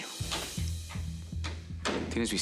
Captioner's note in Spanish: sonido al abrir una puerta